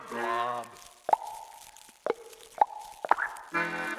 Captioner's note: popping sounds